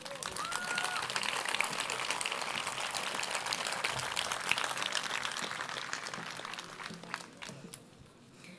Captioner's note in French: Applaudissements